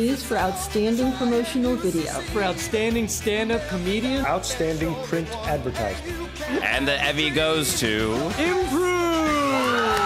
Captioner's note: applause